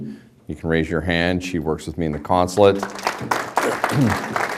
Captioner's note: applause